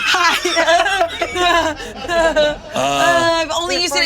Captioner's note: all laughing